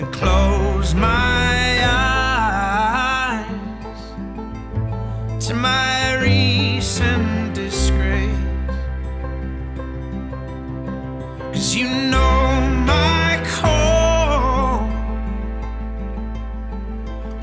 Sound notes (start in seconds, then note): none